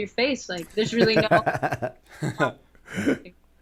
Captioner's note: laughter